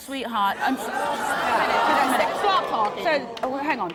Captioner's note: murmuring